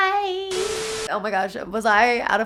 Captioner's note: TV static